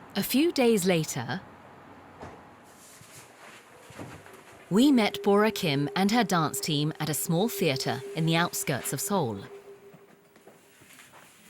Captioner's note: voiceover